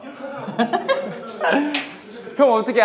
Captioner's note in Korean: 웃음